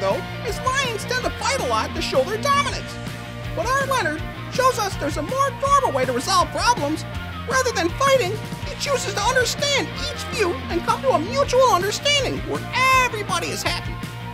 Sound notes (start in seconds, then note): none